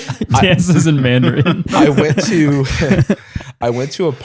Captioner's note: laughter; laughs